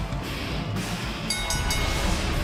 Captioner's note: bell ringing